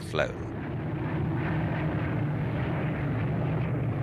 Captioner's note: plane roaring